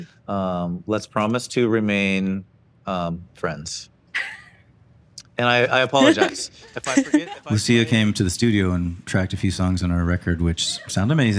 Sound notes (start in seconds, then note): 3.4 chuckles